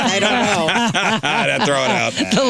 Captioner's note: laughing